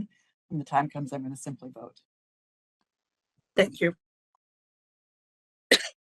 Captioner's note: cough